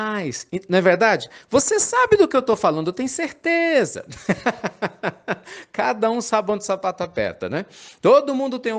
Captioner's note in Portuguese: risadas